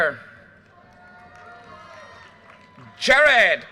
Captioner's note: audience cheers and applause